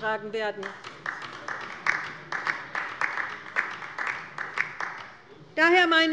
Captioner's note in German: Beifall bei der LINKEN